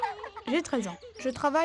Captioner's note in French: rires